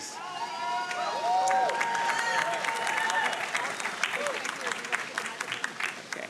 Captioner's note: audience cheering and applauding